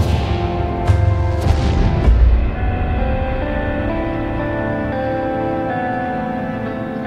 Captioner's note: air whooshes; light dramatic music; thudding